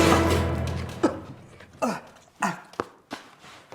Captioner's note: coughs